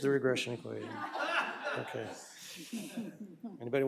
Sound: laughter

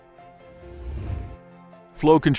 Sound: air whooshes

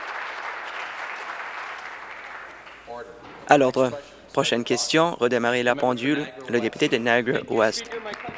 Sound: applause

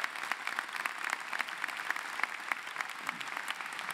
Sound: applause

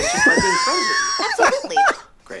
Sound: Glenn laughing

